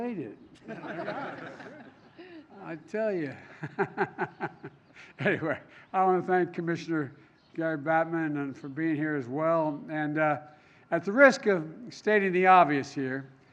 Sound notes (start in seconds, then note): 3.3 laughter; 4.1 laughs